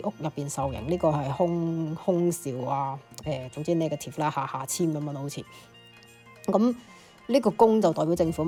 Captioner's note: gong